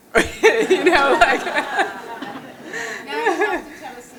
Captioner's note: laughter